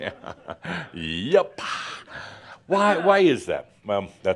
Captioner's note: chuckles